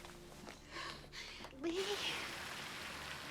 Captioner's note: crying